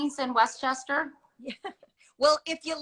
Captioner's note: laughs